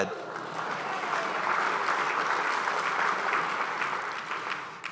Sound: crowd applauding

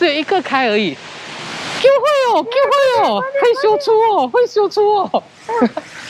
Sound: speaking in Taiwan language

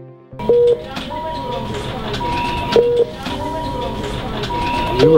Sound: beeping

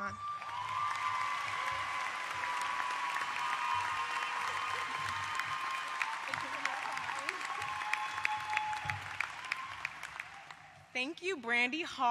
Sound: applause

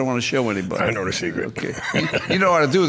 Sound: laughs

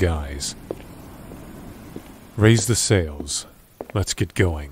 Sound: stepping

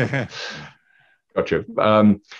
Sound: laughing

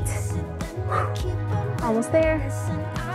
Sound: exhales

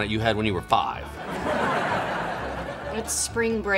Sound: laughter

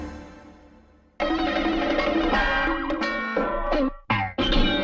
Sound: cartoon sounds

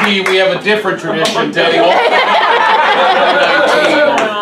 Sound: laughs

